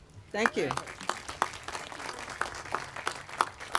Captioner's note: applause